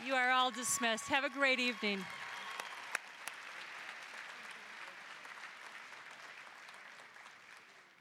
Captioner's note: applause; applause, cheering